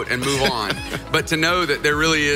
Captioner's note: laughing